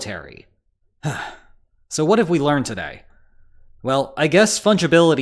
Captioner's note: sigh